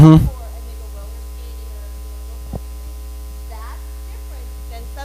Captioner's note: speaking faintly